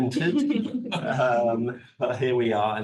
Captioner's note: attendees laughs